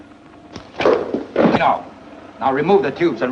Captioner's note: thuds